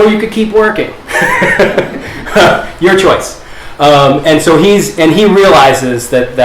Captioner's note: chuckles